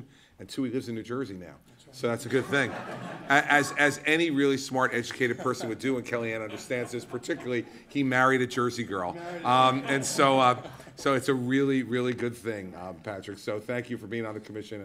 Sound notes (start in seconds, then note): 2.3 laughter